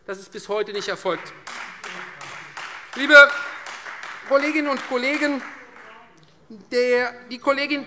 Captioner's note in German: Beifall Freie Demokraten